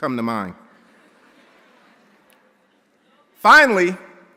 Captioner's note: audience chattering